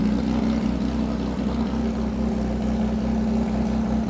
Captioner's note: engine rumbling